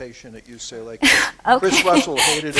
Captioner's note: laughter